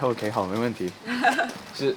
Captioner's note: laughs